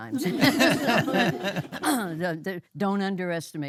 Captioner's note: audience laughing